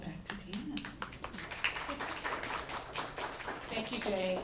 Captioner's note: applause